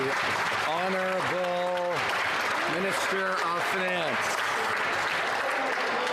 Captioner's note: some Applause